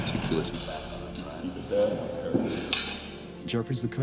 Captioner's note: indistinct chatter